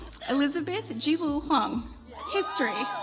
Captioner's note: audience applauds